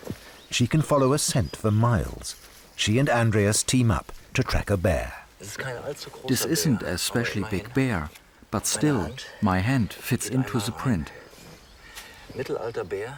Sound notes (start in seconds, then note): 5.8 in German